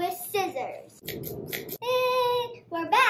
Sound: scissor sound

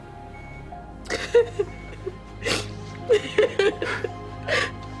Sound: cries, laughs

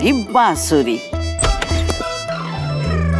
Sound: door opens

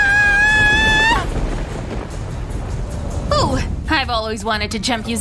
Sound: screaming

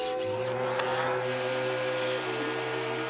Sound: machine whirring

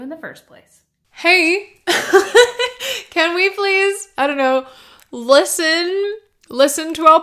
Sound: laughter

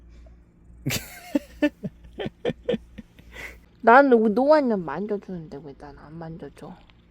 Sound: laughs

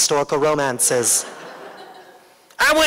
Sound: laughter

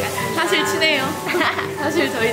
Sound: laughing

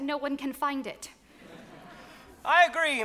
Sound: audience laughs

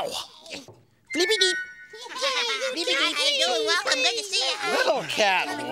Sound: cheering

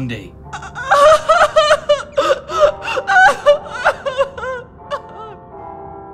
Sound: crying sounds

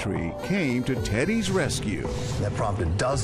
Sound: noise maker honks

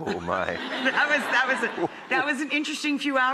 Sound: laughter

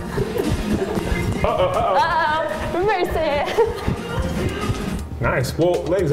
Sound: laughing

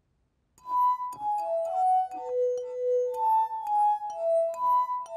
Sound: glasses vibrate to the tune

